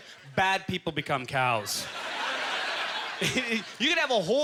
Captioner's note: audience laughter